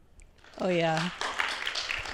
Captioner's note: applause